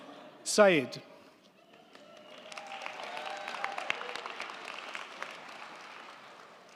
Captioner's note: crowd cheering; crowd clapping